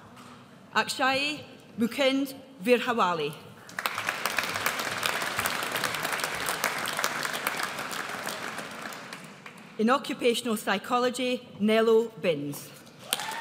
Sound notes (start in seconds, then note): 3.7 audience applauds; 13.1 audience applauds